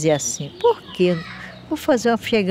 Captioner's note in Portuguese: papagaio palrando